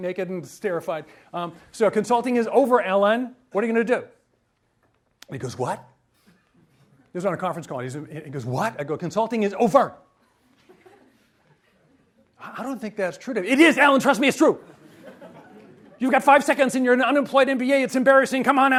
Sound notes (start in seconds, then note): 14.6 audience laughs